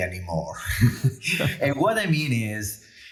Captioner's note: chuckles